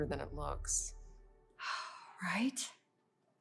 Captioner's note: Lana sighs